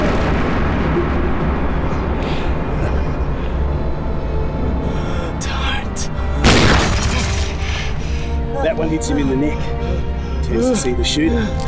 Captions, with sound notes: Don't... [Gunshot] That one hits him in the neck. He turns to see the shooter.